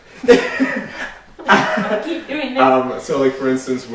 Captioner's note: laughs